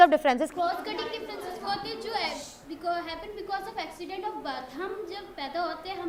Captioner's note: speaks in foreign language